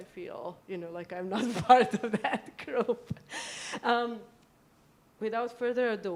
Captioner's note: laughs